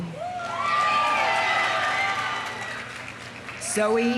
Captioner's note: audience cheering; audience applauding